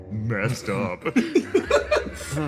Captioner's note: laughs